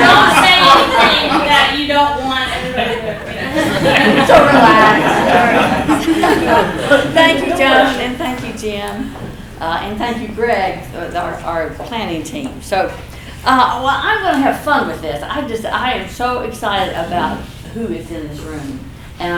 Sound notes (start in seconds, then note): 2.6 laughter